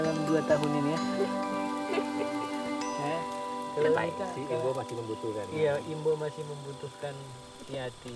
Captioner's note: chattering in foreign language